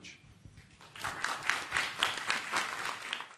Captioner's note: applause